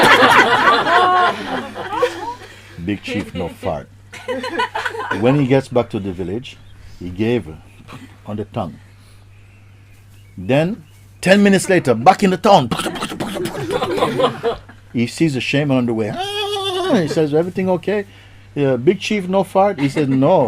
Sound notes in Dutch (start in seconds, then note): 0.0 Gelach; 16.1 paardengehinnik